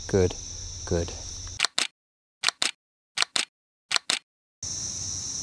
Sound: camera clicking

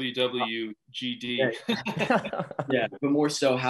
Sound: all laughing

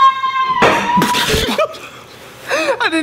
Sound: spit; laughing

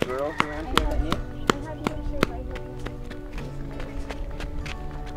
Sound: foreign language

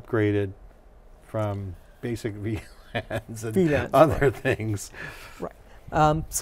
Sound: laughs

